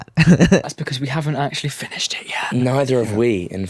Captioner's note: whispers